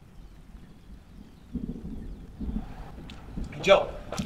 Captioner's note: distant thunder